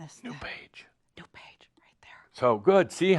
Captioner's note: whispers; whispers also